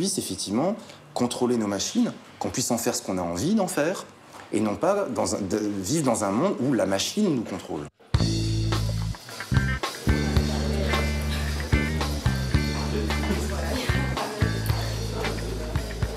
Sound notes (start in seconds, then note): 8.0 upbeat instrumental music; 10.0 murmuring